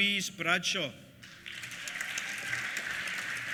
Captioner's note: applause; cheers